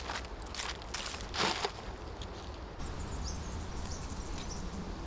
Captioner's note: birds chirping